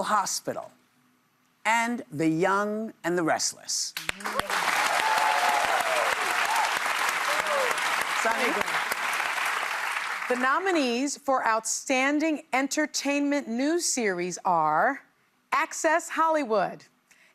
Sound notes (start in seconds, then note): 4.0 cheers and applause